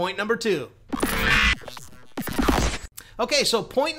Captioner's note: zapping